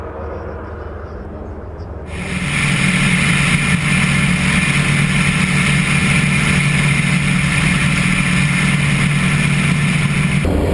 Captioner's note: engine roaring